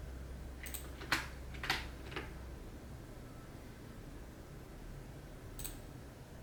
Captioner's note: computer mouse and keyboard click